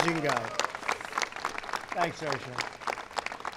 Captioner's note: applause